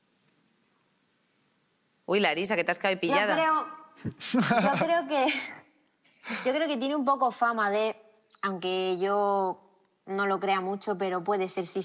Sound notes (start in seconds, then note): 4.0 laughter